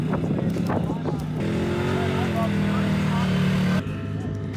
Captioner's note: engine revving